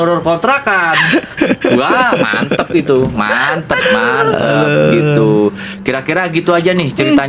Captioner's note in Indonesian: tertawa